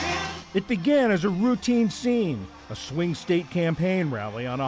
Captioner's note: voice-over